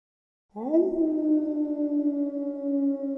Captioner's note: wolf howls